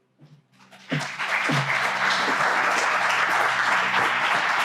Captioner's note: crowd applauding